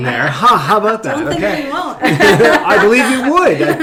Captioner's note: laughing